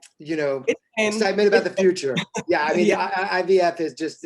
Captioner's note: mumbles